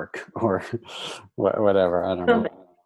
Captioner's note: laughs